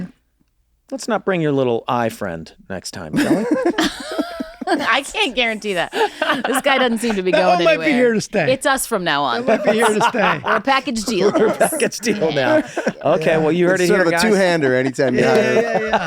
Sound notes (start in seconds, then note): 3.7 they laugh; 9.3 Glenn laughs